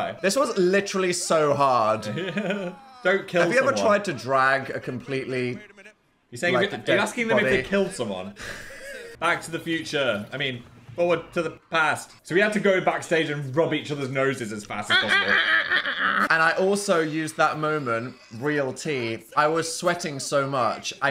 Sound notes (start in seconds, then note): 1.9 Phil laughs; 8.4 Dan laughs; 15.1 Dan vocalizing